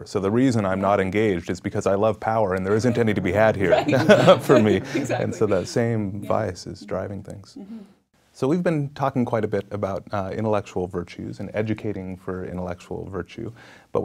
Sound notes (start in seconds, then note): 2.6 laughing